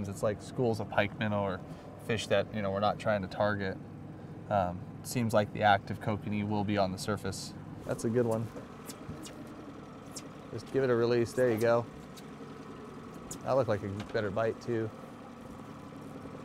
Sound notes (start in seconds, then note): 7.6 boat engine idling